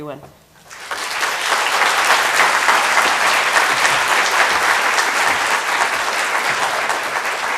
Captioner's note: applause